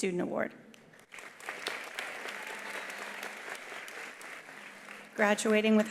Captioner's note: attendees applauding